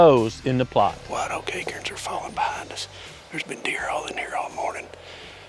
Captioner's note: whispering